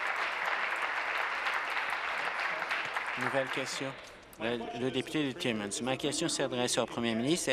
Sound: applause

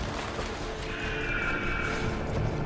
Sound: eagle screech

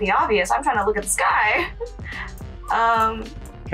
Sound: laughs

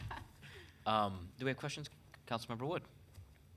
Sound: chuckles

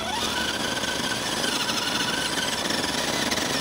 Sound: engine sounds

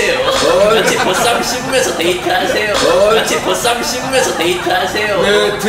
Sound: laughter

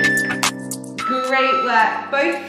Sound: timer beeping

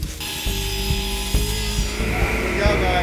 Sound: saw buzzing

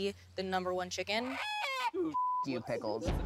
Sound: clucking

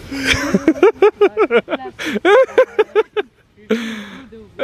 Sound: laughs

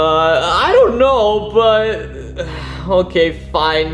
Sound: sighs

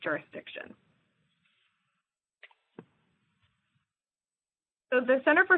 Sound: pause

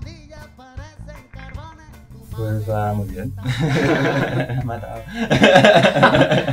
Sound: laughs

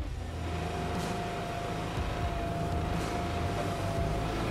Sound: lift engine humming

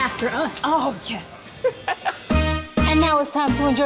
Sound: laughing happily

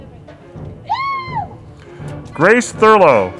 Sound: woman cheering

